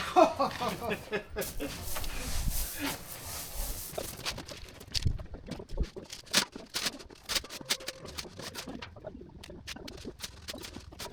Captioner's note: laughing; machinery whirring; machinery whirring